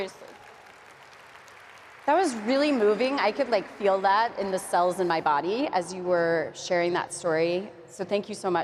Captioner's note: applause